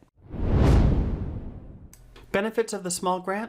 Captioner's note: air whooshing